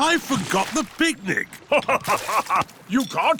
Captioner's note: laughs